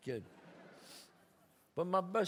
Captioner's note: audience laughs